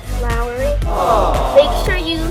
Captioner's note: awww!